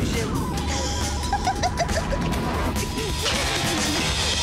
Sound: laughing

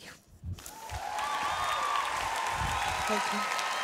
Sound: applause

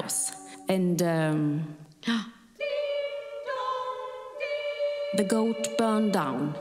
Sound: gasping

